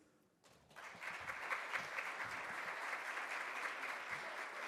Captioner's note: audience claps